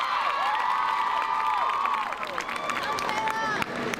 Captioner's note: crowd cheering